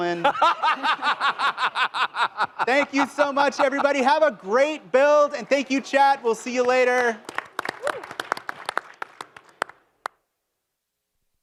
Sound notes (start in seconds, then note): 0.0 laughter; 7.8 applause